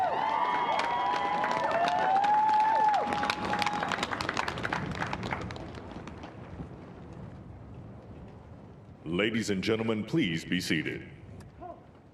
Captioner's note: cheers and applause